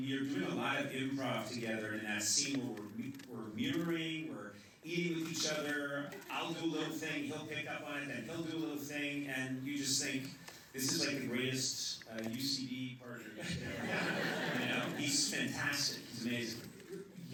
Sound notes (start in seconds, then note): 13.3 laughter